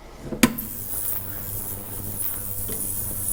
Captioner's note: whirring